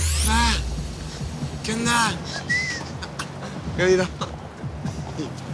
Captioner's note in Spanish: Silbidos; Risas